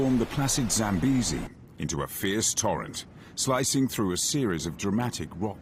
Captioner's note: water rushing